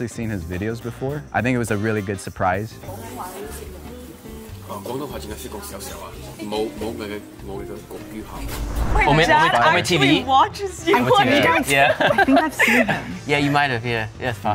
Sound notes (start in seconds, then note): 4.8 speaks foreign language; 12.0 laughs